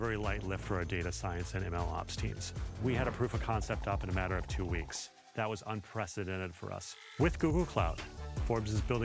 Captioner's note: speaking Spanish